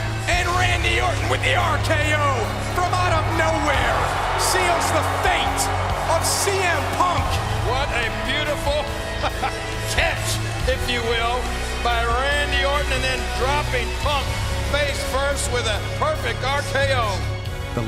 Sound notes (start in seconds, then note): 8.8 laugh